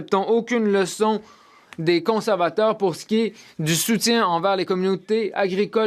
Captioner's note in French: voix de l'interprète